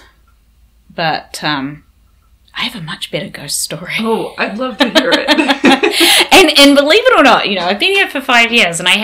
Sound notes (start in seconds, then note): 4.8 laughs